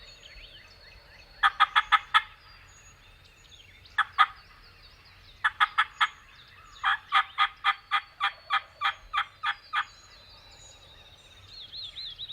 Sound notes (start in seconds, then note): 1.4 turkey calls